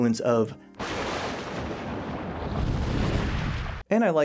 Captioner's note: thunder sounds